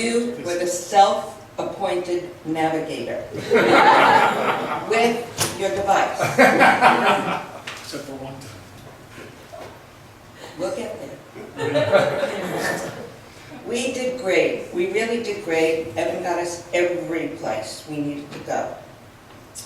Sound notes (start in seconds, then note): 3.4 laughs; 6.1 laughs; 11.3 laughs